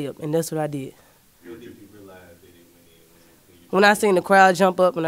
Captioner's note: voiceover